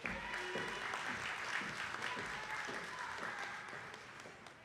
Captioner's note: attendees clapping